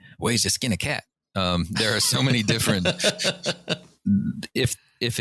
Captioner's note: laughter